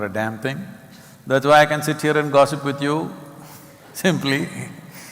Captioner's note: laughs